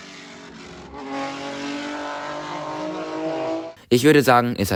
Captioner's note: beautiful F3 engine sounds